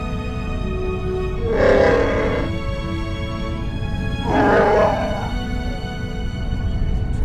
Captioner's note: growl and roar!